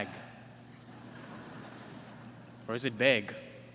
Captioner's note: laughter